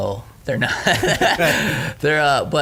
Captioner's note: laughing